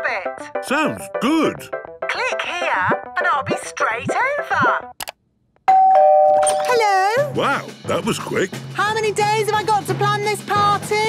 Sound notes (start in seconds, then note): 5.7 doorbell ringing